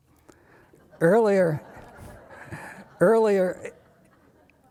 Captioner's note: audience laughing